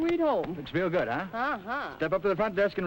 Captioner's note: pat